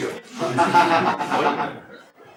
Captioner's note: laughter